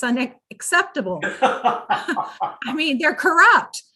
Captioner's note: laughs